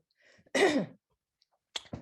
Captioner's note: clearing throat